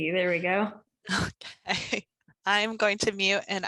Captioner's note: laugh